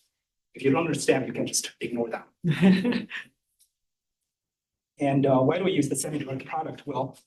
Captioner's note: laughter